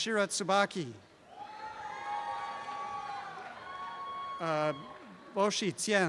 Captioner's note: shouting and cheering